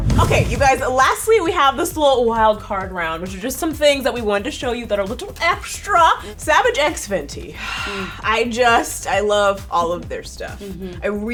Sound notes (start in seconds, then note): 7.5 exhales